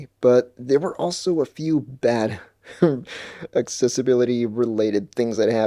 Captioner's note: laughs